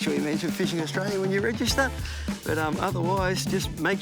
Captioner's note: chuckles